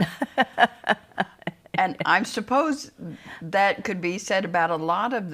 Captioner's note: laughs